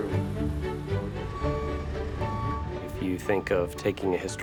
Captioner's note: excavator beeps